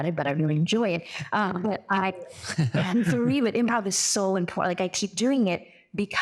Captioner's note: laugh